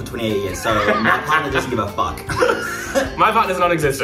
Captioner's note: laughs